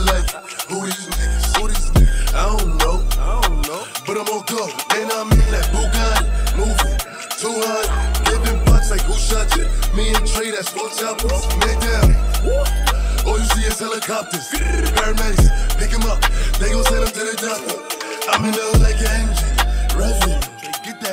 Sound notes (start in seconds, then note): 12.4 grr